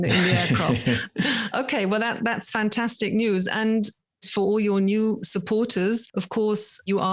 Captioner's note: laughing